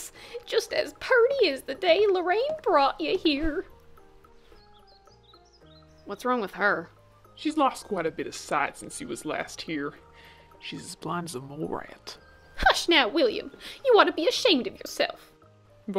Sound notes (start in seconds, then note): 10.2 whispering